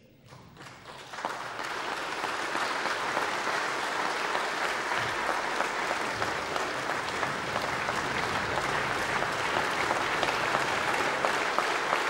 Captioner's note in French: Applaudissements